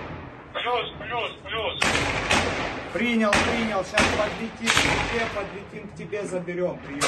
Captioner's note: radio